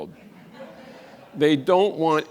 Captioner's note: audience laughs